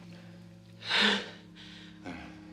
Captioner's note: sighs